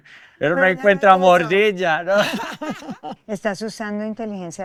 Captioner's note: laughter